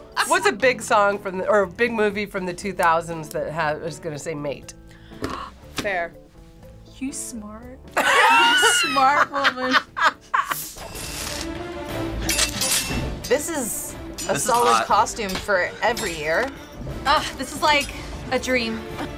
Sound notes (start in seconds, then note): 4.9 gasps; 7.9 laughs; 10.6 swashbuckling music